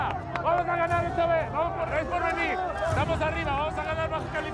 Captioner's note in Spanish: gritos y exclamaciones